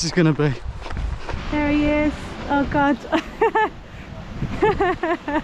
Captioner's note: laughs